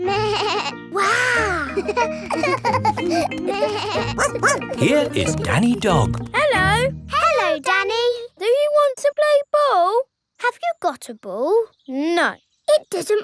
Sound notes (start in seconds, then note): 1.0 both laughing; 4.0 barking